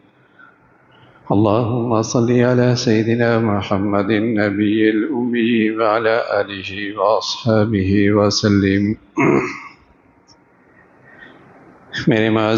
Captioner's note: clears throat